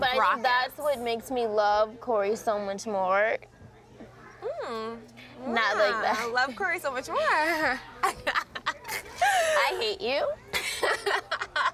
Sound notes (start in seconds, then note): 8.0 laughs